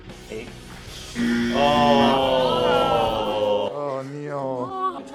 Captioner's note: buzzer; groans